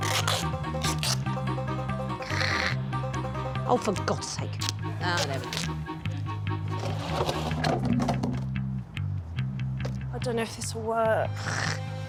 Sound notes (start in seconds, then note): 0.0 tape tearing; 2.2 growling; 5.2 tape unwrapping; 6.8 barrel rattling hollowly; 7.6 upbeat music